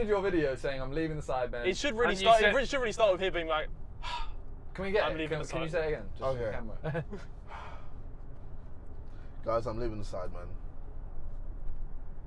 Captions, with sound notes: - You did your video saying I'm leaving the Sidemen. - It should really be- - it really should start with him being like (dramatically sighs) - I'm leaving the Sidemen. - Can you say that again? - Yeah. - Just for the camera. (dramatically sighs) - Guys, I'm leaving the Sidemen.